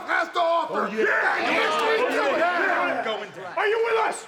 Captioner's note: group chattering